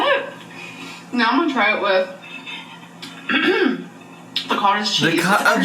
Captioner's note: clears throat